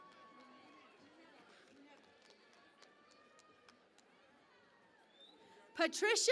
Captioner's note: cheering and Applause